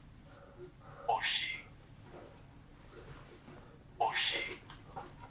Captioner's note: achmet – artificial male voice